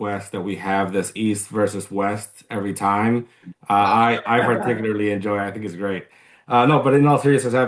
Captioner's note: laughter